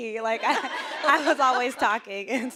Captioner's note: audience laughing